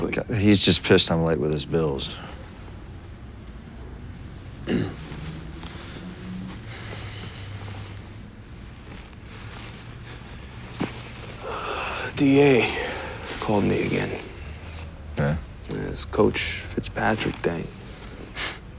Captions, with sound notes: Oh, he's just pissed I'm late with his bills. [clears throat] - DA called me again. - Yeah? Yeah, this Coach Fitzpatrick thing.